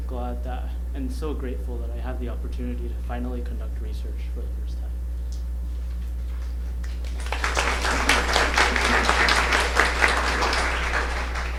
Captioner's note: applause